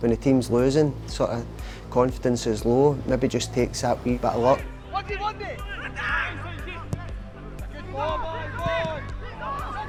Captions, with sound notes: When the team's losing, confidence is low. Maybe just takes that wee bit of luck. (team cheering)